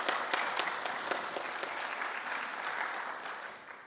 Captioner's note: applause